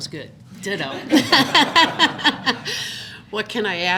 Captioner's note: laughter